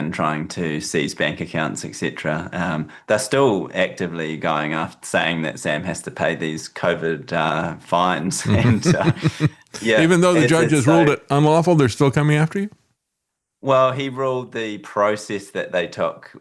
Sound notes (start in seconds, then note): 8.4 laughing